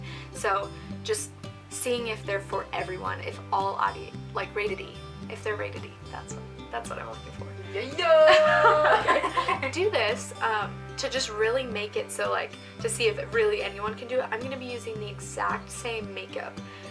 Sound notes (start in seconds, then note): 7.9 and I laugh